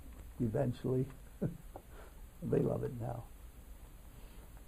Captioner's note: laughs